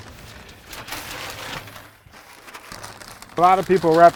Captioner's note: paper crinkles